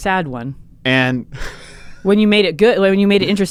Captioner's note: laughs